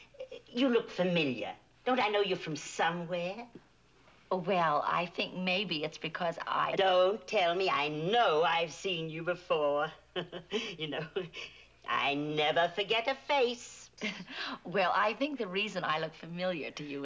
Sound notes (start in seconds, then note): 10.0 chuckles